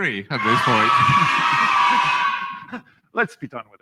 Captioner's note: cheers and Applause